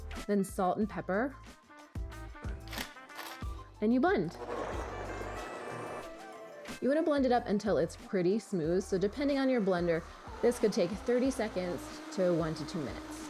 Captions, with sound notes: Then salt and pepper. (upbeat music) And you blend. (blender whirring) You wanna blend it up until it's pretty smooth. So depending on your blender, this could take 30 seconds to one to two minutes.